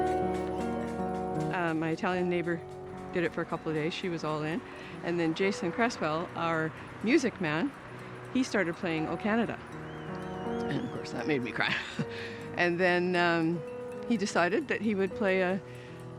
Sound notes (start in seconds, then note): 11.5 chuckles